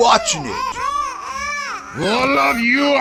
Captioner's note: baby crying